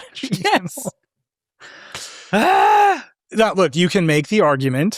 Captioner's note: laughing and grunting